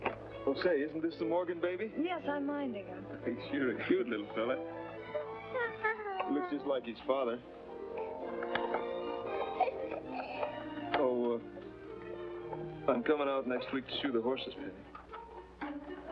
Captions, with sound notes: - Say, isn't this the Morgan baby? - Yes, I am minding him. - He is sure a cute little fella. (baby coos) Looks just like his father. Oh, a... I'm comin' out next week to shoe the horses, Penny.